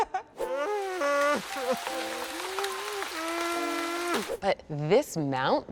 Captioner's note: laughs; triceratops crying